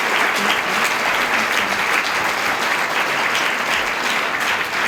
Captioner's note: applause continues